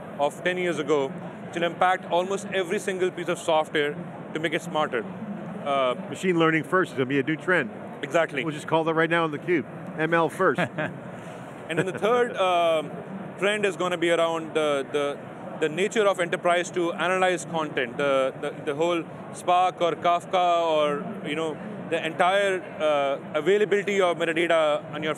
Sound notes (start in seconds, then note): 11.6 chuckling